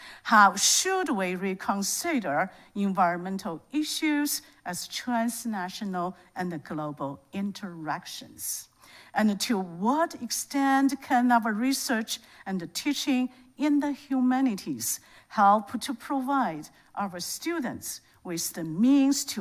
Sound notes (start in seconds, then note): none